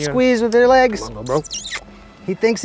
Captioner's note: making kissing sounds